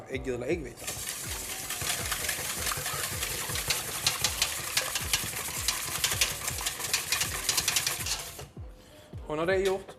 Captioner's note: whisking